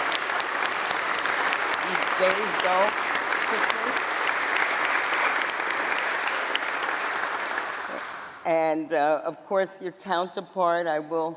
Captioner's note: applause